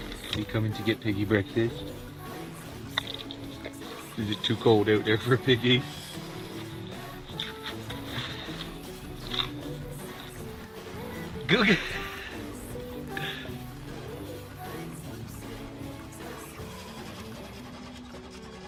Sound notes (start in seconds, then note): 11.4 laughs